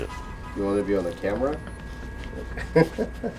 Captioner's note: laughs